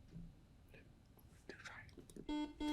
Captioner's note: whispers; button beeping